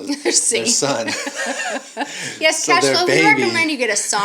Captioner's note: both laughing